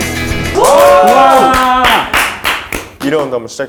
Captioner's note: second game begins with loud applause!